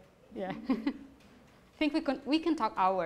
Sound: voiceover; laughs

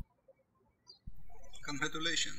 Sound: birds chirping

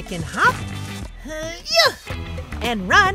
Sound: effort sounds

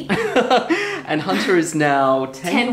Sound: chuckles

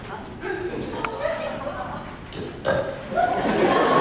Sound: burp

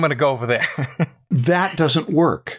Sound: laughter

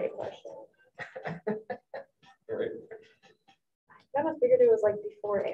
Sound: students chuckling

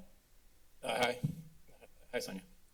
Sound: mic thump

